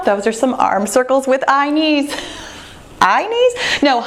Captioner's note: laughs